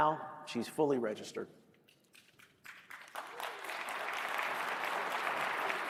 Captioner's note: applause